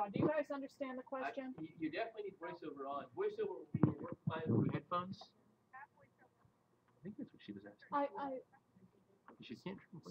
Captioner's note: lower tone